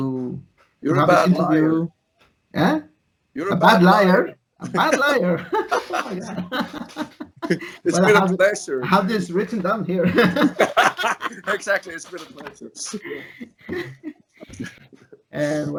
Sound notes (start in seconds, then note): 4.6 laughs